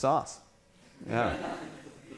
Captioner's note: laughing